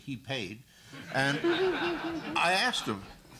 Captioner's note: laughter